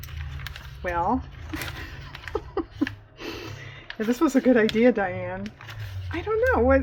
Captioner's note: laughs